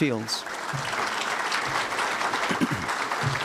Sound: applause

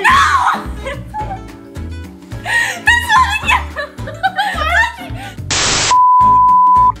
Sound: screaming and laughter; dial tone

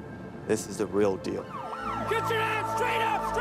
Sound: siren

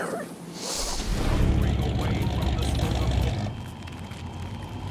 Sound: engine rumbling; tires crunching

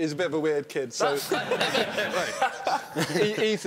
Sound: laughing

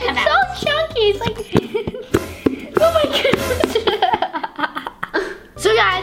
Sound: air puffing out of the bottle

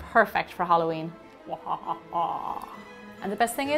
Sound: maniacal laugh

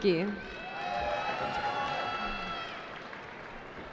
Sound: cheering

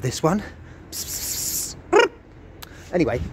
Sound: cat noises

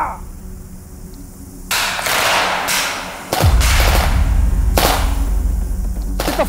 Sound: gunfire

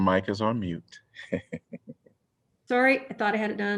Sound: laughter

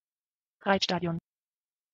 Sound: fast Pronunciation

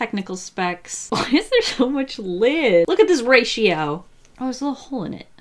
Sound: laughs

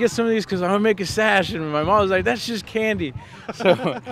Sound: laughing

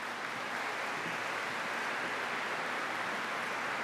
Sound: applause

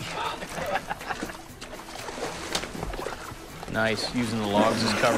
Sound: laughs; water splashing

